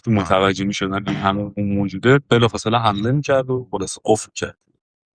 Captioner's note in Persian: گلویش را صاف می‌کند